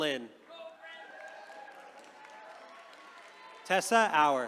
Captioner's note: attendees cheering